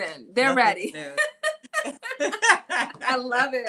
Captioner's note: laughing